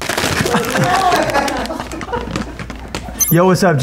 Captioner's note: audience laughing